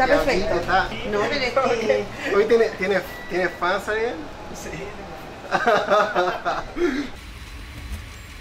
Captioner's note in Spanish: risas